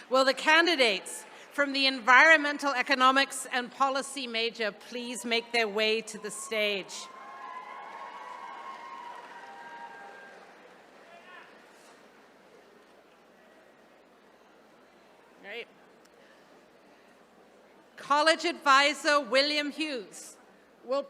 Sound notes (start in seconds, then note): 6.2 attendees cheering